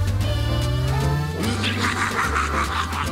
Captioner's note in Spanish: risa maligna